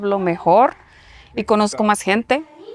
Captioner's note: speaking spanish